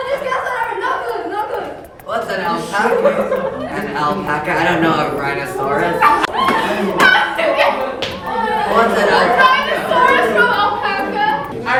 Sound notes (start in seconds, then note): 6.3 wheezes